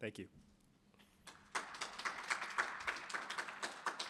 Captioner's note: applause